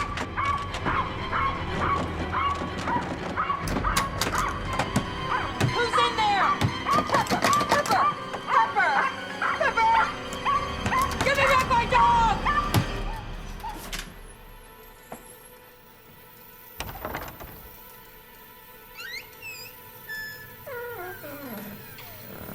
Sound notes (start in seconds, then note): 0.1 lock clicking; 0.1 suspenseful orchestral music; 2.7 dog barking; 3.5 lock clicking; 4.7 hand pounding; 6.6 lock clicking; 6.8 dog barking; 9.1 dog barking; 10.8 door shaking; 12.8 hand pounding; 12.8 suspenseful orchestral music; 17.3 lock clicking